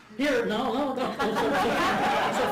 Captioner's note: laughter